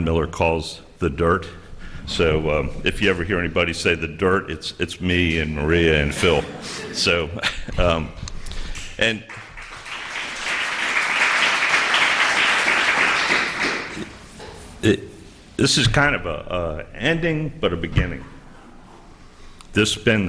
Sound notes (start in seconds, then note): 6.1 laughter; 14.7 applause